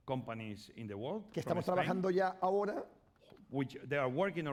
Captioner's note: speaking spanish